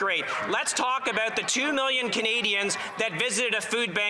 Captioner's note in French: voix de l'interprète